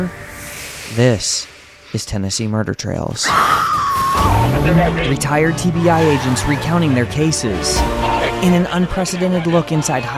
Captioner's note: woman screaming